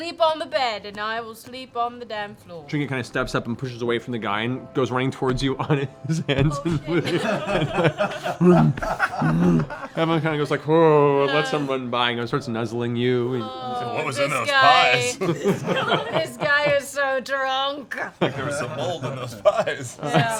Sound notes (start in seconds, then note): 6.6 laughter; 9.2 growls